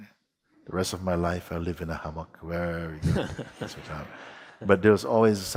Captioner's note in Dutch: Gelach